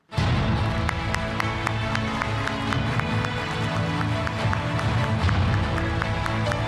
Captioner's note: dramatic music; audience clapping